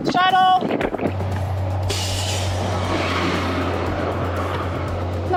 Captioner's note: bus engines roaring